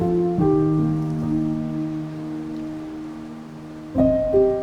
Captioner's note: light wind whirling